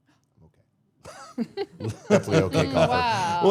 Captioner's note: all laughing